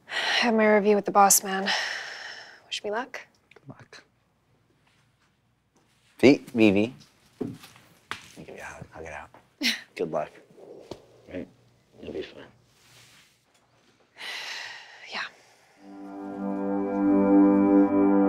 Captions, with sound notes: I have my review with the boss-man. Wish me luck? V! V, V! Give me a hug. Hug it out. Good luck. Hey-- you'll be fine. [sigh] Yeah.